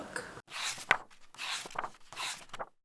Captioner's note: pages turning